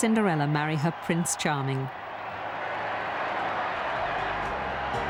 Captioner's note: cheering